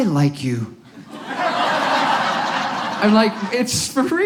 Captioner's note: audience laughs